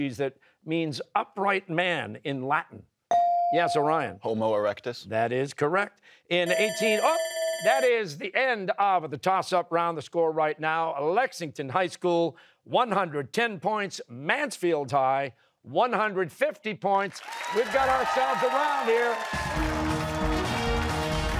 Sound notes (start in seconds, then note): 6.4 bell ringing; 19.3 cheers and applause